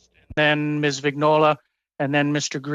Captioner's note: speaking French